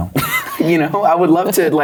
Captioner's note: laughing